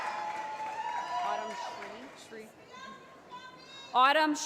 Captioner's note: voiceover; cheering